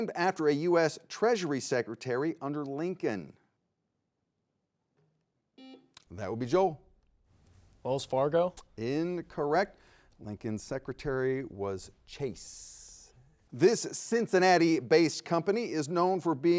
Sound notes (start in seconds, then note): 5.6 buzzer beeping